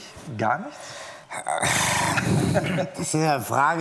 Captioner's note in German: Seufzen